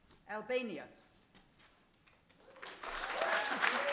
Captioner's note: applause